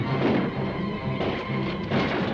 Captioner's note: dramatic music; guns firing; dramatic music